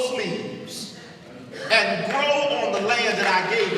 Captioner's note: audience applauding